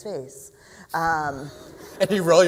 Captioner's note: laughter